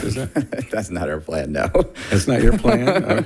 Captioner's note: laughs